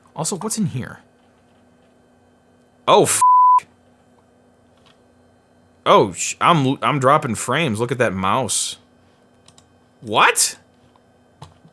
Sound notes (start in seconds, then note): 3.2 beep